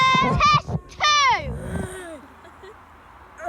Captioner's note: groans